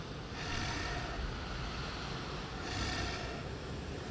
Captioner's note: breathing